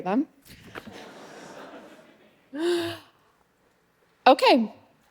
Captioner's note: audience laughing